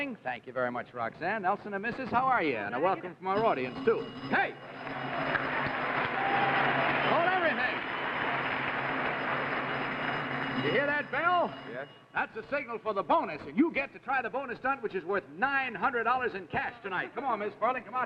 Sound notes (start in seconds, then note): 3.7 bell rings; 4.8 audience cheers